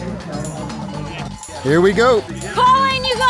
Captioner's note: cow bell ringing